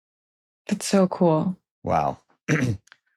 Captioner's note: clears throat